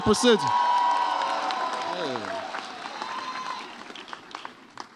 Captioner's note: audience cheers